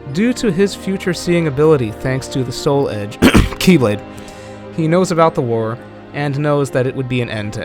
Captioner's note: cough